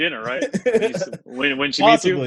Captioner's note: laughs